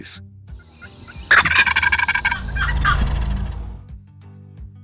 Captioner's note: turkey calling